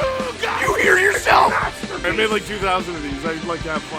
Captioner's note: Harry potter screaming; screaming